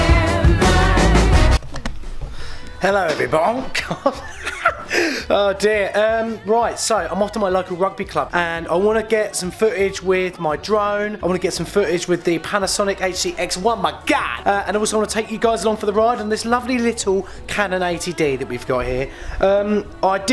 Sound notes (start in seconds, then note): 3.0 laughs